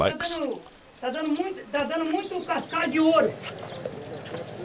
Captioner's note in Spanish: <i>habla en portugués</i>